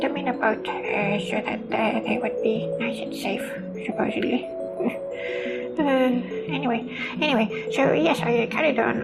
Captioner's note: sigh